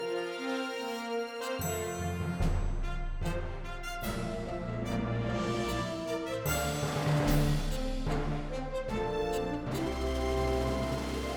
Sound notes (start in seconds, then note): none